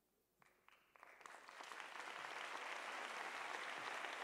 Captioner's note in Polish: oklaski